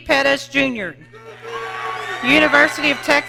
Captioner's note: audience cheering